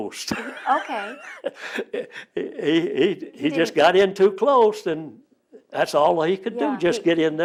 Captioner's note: laughs